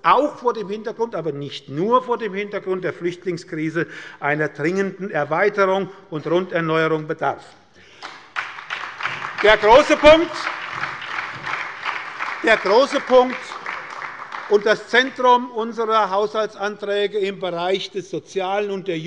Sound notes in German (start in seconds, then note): 7.9 Beifall bei der SPD